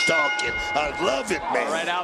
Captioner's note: bell rings